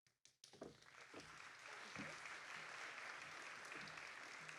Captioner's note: applause